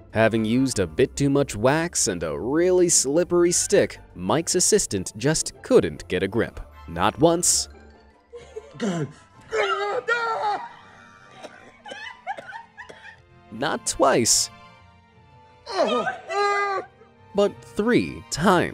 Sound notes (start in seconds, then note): 9.4 groaning